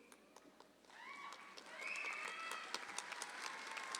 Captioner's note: audience applauds